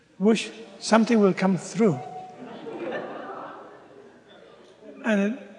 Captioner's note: laughter